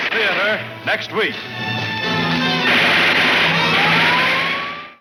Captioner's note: guns firing aggressively